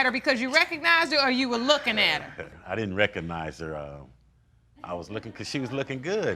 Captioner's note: laughing